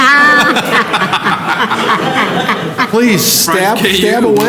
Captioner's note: laughter